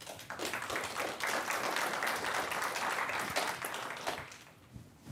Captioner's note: applause